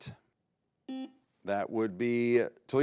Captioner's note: buzzer beeps